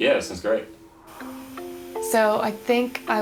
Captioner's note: TV static